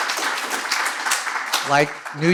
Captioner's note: applause